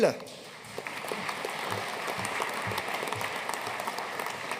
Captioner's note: audience applauding